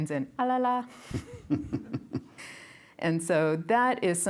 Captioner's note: giggles